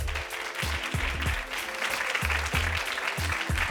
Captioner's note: audience clapping